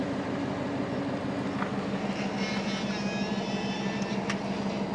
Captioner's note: keys beeping